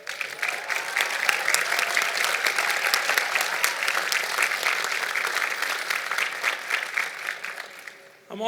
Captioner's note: applause